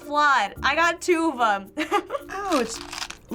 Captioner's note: chuckles